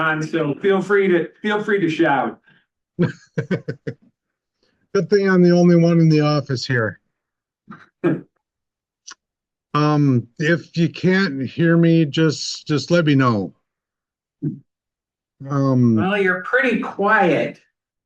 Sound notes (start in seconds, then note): 3.0 laughter